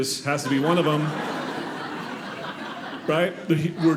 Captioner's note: audience laughing